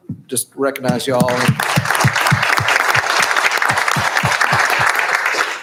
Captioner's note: applauding